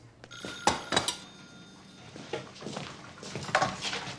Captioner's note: telephone ringing